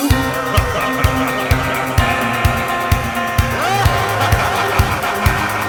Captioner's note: man laughs; upbeat music